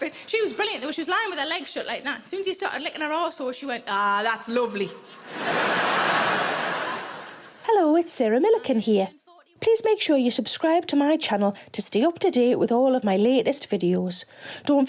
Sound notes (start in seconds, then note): 5.1 crowd laughing; 7.5 voiceover